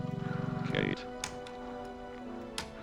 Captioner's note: keyboard clacking